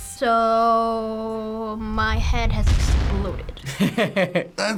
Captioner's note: kaboom!